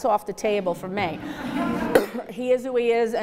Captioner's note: audience laughs